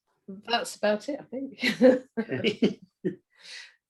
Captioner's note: laughing